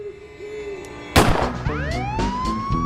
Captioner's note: gunshot